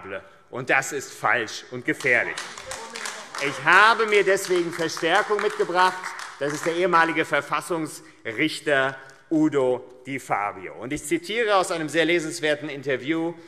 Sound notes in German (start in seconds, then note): 1.9 Beifall AfD - Zurufe DIE LINKE